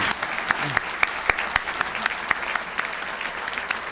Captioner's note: applause